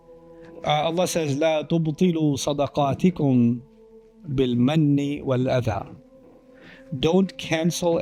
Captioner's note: Arabic